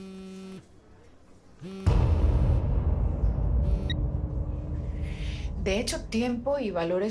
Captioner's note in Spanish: Vibra el celular